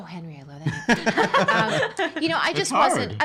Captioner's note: laughing